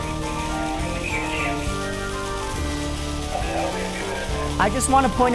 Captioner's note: flames roar; firemen speak on radio